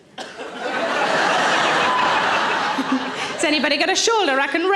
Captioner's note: audience laughing